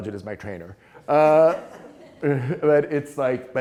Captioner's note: students laughing